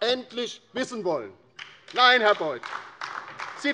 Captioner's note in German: Beifall DIE LINKE